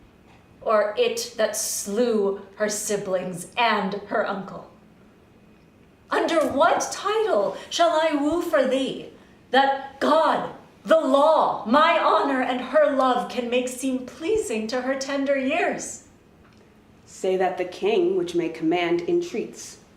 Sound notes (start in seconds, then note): none